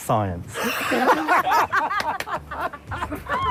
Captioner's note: laughing